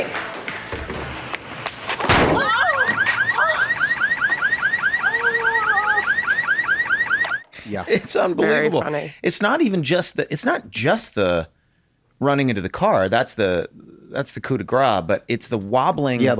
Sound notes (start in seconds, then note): 2.0 head Slammming; 2.9 car alarm Ringing; 5.4 Dee groaning in pain